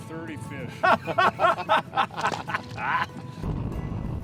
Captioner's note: laughing